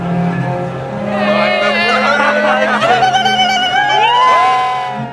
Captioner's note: indistinct chattering; people cheer